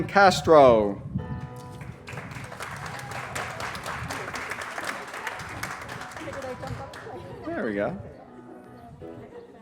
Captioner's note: applause